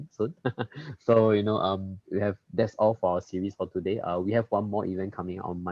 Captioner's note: laughs